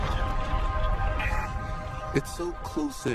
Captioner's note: Static